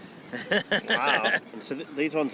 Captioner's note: chortling